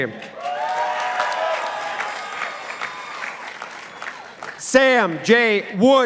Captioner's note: participants applauding